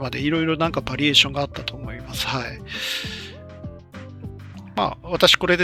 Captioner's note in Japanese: 息をのむ音